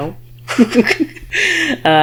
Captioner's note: laughs